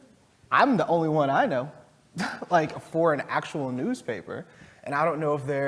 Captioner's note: laugh